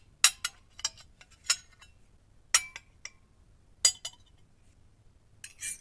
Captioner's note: forks clanging on plates